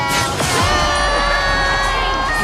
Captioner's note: cheers